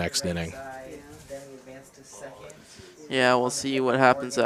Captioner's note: indistinct chatter